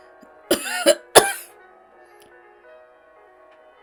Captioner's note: Hana coughs